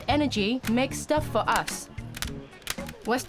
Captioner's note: clacking